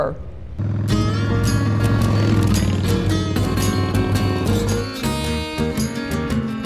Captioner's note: motorcycle roaring; bright music